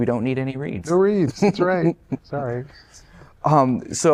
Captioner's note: laughter